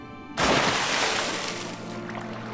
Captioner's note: splash